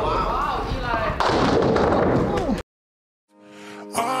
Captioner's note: ball crashing into pins